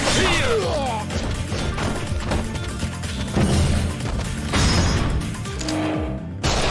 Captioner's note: sword and gun fighting continues